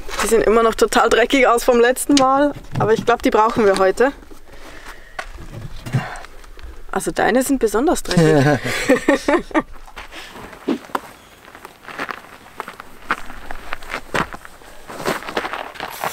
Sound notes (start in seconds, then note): 8.1 laughter